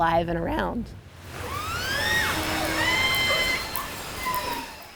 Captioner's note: orcas screeching